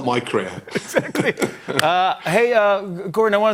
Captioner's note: both laugh